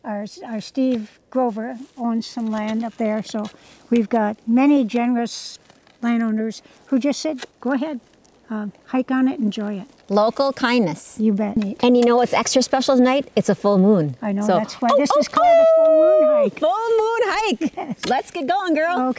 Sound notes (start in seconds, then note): 15.0 mimics wolf howling